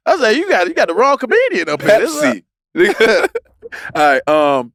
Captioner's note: laughs